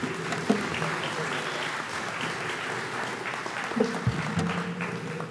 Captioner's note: audience applauds